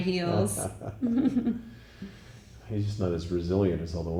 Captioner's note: chuckling